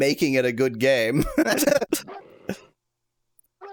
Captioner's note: laughs